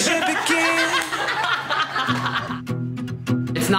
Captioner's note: all laughing